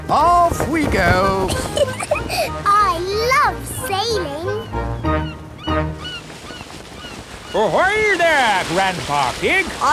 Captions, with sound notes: Off we go! (GIGGLES) I love sailing! Ahoy, there, Grandpa Pig!